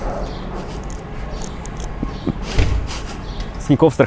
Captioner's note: giggling